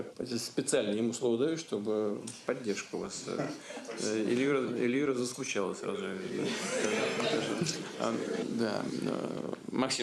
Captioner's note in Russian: Смех